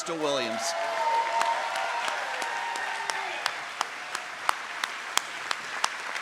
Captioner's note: trustees and audience applaud